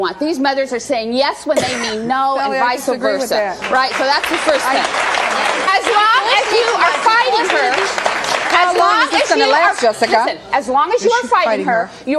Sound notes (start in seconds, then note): 3.6 audience applauding; 7.7 overlapping chatter